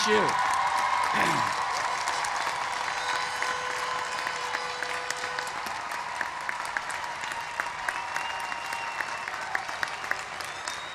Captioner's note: applause